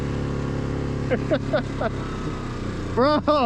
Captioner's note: laughs